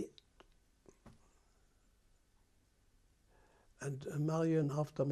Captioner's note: pauses for 3 seconds